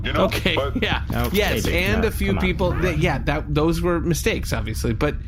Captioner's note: laughing